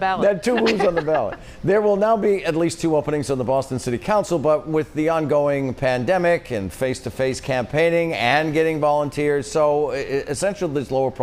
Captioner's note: laughter